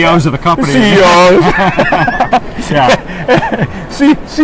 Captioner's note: laughs